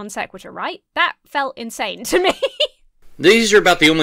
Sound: laughs

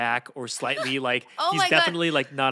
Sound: Felicia laughs

